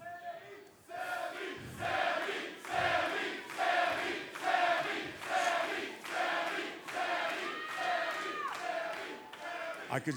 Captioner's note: fans chanting